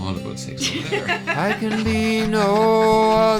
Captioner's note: laughing